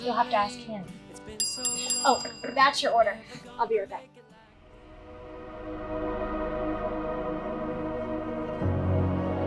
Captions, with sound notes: You'll have to ask him. (bell rings) Oh, that's your order. I'll be right back. (melancholy music)